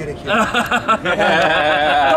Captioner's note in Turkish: gülüşmeler